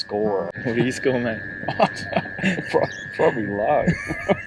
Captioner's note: laughs; laughing